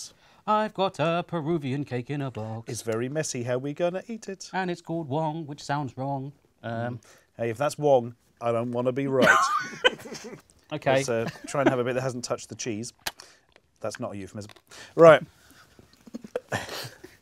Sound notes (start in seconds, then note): 9.2 laughs